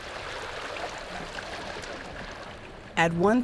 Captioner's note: babbling water